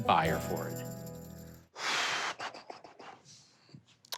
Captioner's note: exhales sharply